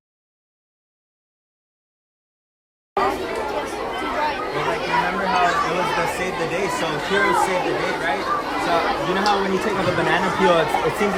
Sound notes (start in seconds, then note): 3.2 crowd chatter